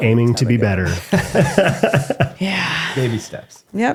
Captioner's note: laughing